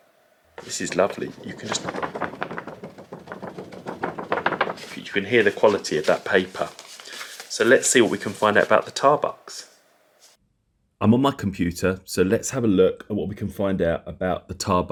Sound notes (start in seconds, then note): 0.6 sound of the paper